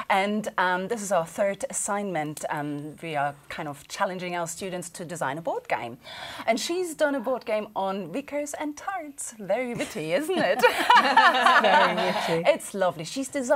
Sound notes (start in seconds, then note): 10.5 laughing